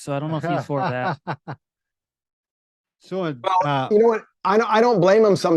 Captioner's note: chuckles